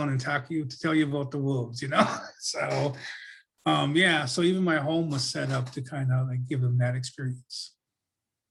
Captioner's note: laughs